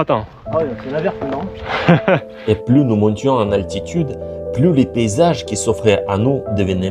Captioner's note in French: rires